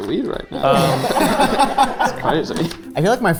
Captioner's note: group laughing